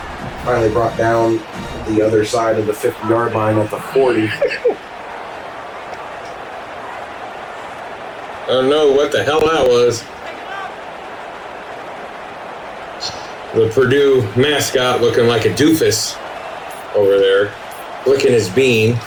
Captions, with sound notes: Finally brought down the other side of the fifth yard line of the 40. I don't know what the hell that was. [Crowd Noises] The Purdue mascot looking like a doofus over there, licking his bean.